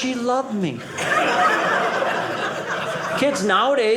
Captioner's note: audience laughing